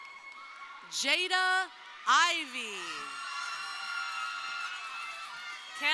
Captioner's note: crowd cheering